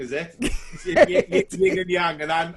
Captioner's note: laughs loudly